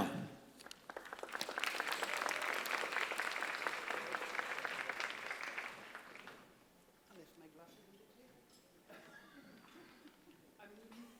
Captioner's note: applause